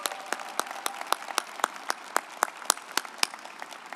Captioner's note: group applauding